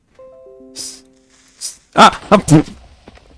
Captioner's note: Windows notification sound; Creeper noises